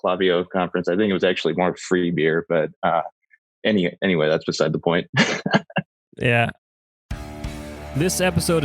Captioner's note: laughs